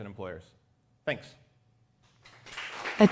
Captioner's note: applause